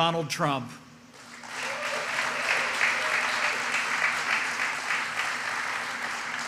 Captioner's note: applause